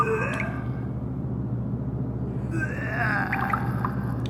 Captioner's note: vomiting sound